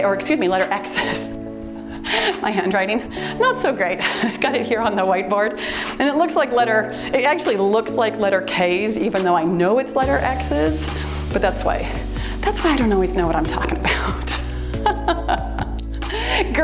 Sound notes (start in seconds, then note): 14.8 laughs; 15.8 timer beeps